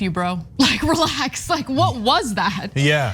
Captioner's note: laugh